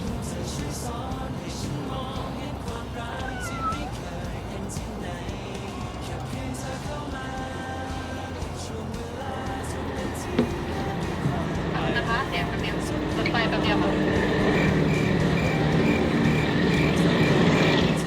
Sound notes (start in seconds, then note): 9.3 train running